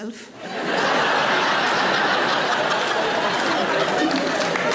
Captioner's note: audience laughs